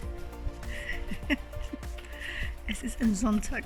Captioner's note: laughing